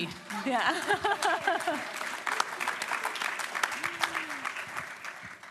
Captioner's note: applause